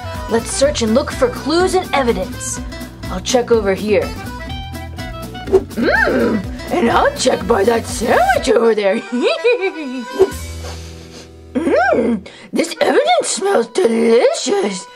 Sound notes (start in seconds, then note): 9.1 Scooby laughs; 10.2 Scooby sniffs